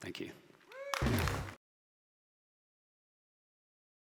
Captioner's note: clapping